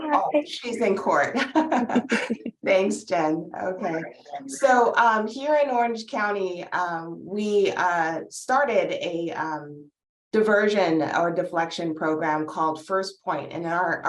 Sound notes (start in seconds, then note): 0.1 laughs